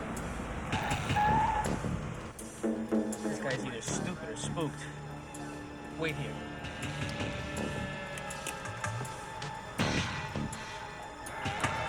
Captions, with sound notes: (tires screech) This guy's either stupid or spooked. Wait here. (dramatic music)